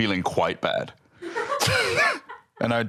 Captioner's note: laughs